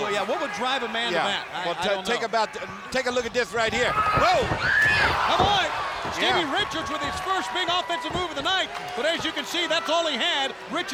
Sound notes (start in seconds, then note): 2.8 footsteps plodding; 3.4 body thudding; 4.2 wrestlers grunting